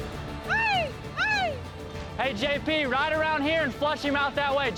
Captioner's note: shouts